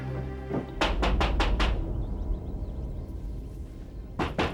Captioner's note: door knocks